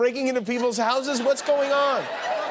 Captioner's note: laughter